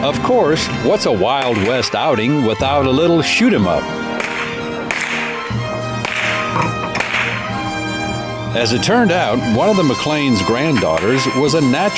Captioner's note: applause